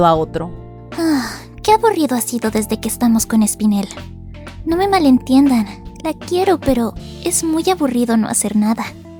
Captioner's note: sigh